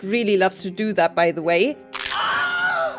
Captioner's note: bones breaking; Wilhelm scream